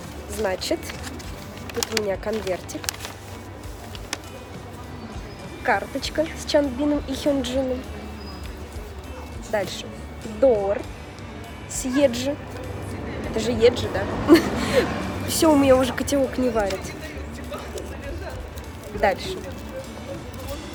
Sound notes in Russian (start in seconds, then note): 14.1 смех